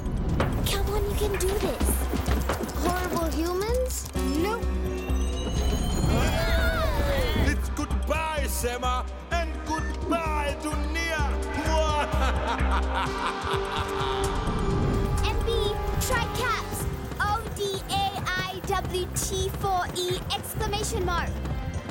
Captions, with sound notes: - Come on, you can do this. - Horrible humans? - No! (chimes) (all shouting) - It's goodbye, Sema, and goodbye, Dunia! (laughing) - MB, try caps! O-D-A-I-W-T-4-E exclamation mark!